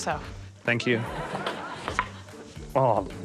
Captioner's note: laughter